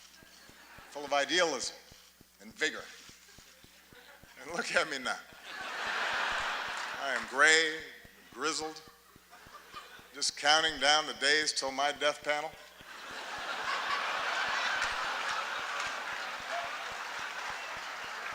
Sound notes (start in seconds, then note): 0.0 laughter; 5.9 laughter; 15.3 laughter, applause